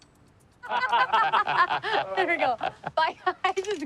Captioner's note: laughing